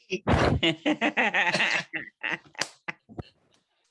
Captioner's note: laughing